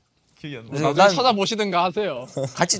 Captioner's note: laughs